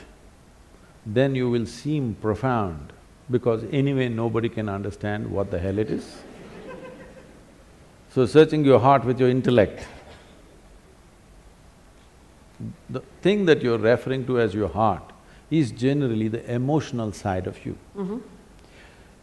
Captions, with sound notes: then you will seem profound because anyway, nobody can understand what the hell it is (Laughter). So, searching your heart with your intellect the thing that you are referring to as your heart is generally the emotional side of you.